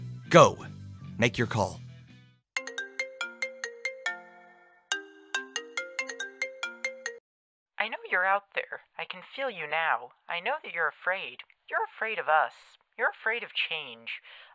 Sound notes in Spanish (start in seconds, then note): 2.6 suena sonido de llamada